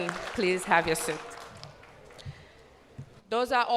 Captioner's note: cheers and applause